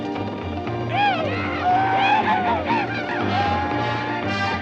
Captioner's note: whooping